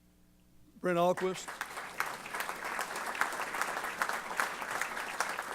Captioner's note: applause